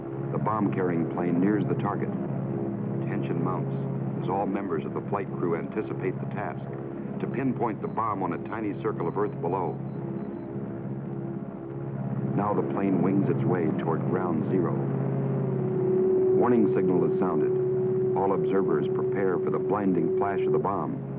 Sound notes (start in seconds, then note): 15.5 prolonged beeping